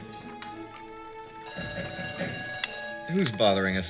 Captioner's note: door bell rings